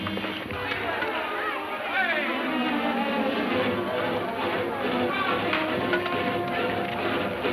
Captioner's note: suspenseful music; men shouting